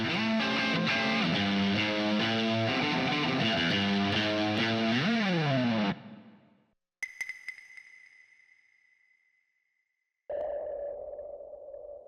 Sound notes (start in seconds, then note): 7.0 the Silence